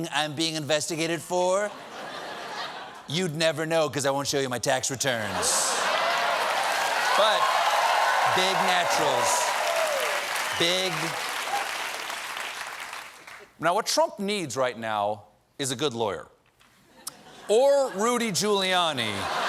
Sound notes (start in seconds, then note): 8.4 cheers and applause